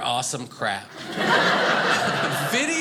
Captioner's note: audience laughing